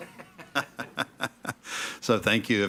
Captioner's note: members laughing